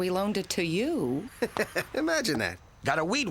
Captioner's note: chuckles